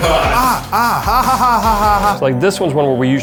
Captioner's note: yelling